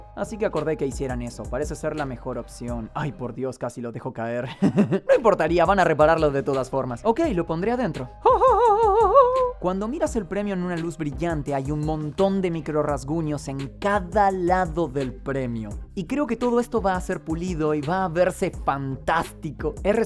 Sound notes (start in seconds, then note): 8.2 giggling